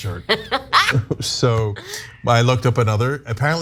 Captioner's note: laugh